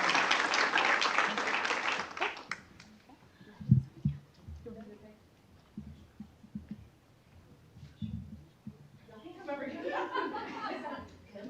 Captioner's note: applause